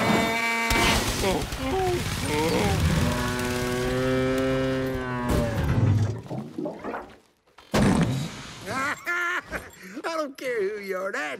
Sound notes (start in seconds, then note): 0.3 honking; 7.7 farting; 8.6 laughing